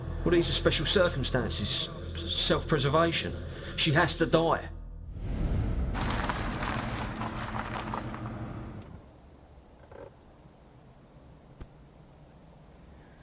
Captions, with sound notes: - Well, these are special circumstances, self-preservation. She has to die. (tense music) (car pulling up) (emergency brake engaging)